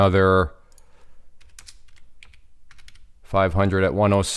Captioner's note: keyboard clicking